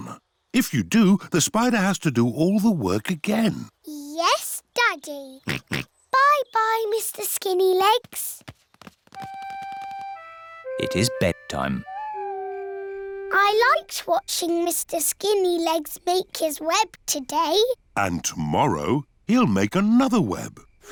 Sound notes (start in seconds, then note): 5.4 oinks; 11.8 owl hoots